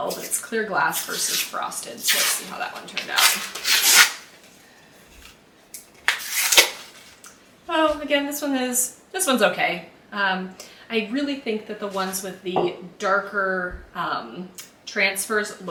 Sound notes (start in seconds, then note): 2.8 tape unwrapping